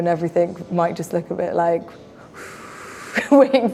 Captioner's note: whooshes